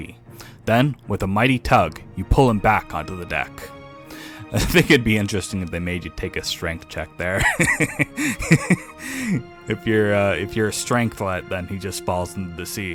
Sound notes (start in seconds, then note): 7.3 laughs sadistically